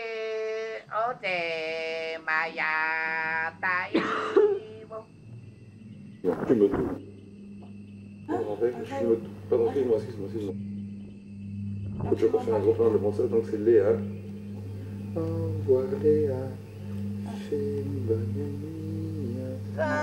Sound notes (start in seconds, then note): 3.8 coughing; 15.0 a man is singing